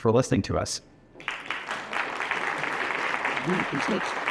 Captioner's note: applause